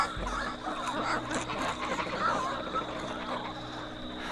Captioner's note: Elias’ screams die out; low squawks and growls from the birds